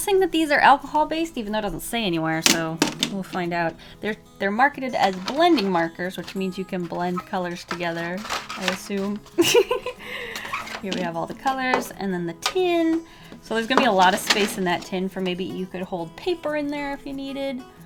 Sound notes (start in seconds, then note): 9.3 laughs